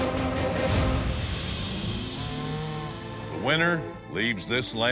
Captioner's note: cattle moo